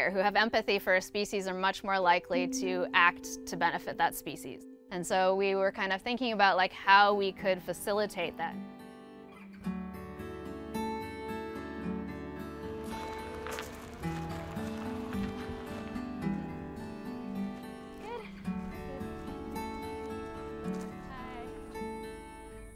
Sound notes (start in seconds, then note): 9.1 calming music; 13.5 footsteps crunching; 19.9 calming music